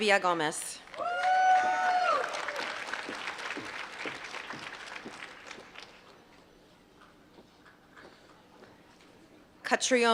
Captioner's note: applause